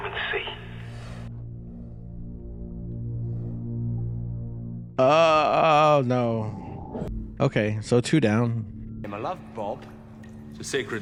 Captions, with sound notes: [kind of mix between “UUUUGGGH” and “AHHHH” sound] No. Okay, so two down.